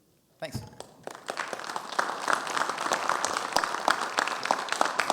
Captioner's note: audience applauds